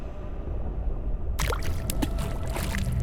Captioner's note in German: Wasserplätschern